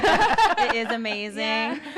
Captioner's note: laughing